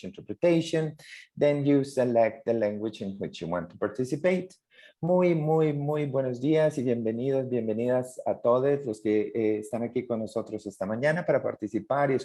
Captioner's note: continues in Spanish